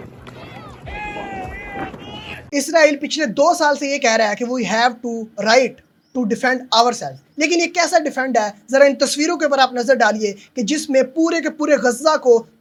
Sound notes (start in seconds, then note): 0.0 applause